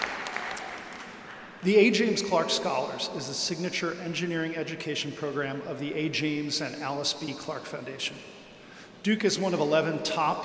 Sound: applause

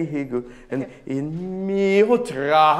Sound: speaking in a foreign language

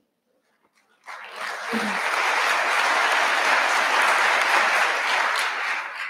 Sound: audience applauding

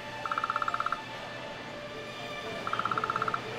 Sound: mobile phone starts to ring

